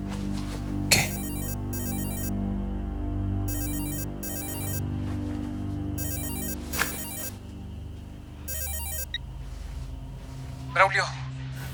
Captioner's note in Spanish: Suena el celular